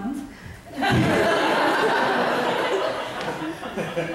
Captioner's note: audience laughs